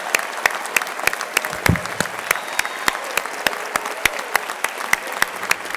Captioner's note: crowd cheering and applauding